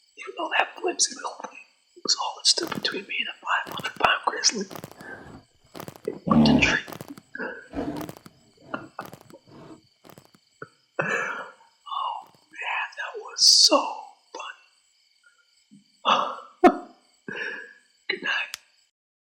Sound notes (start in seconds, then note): 8.6 Bailey chuckles; 16.1 laughs